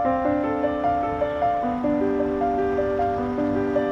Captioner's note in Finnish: Liikenteen ääniä